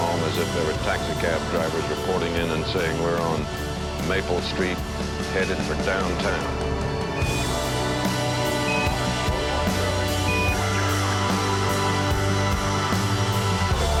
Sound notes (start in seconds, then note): 5.9 device beeping, "Wait" continues